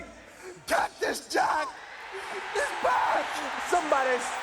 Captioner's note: audience cheering